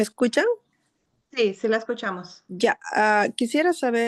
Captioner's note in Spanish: hablando en español